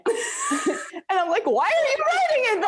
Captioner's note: laughs